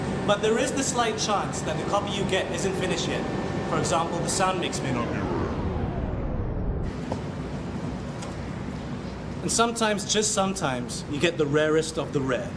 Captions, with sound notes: but there is the slight chance that the copy you get isn't finished yet. For example, the sound mix may not be right. [audio distorts] and sometimes, just sometimes, you get the rarest of the rare.